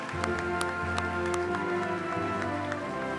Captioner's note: applause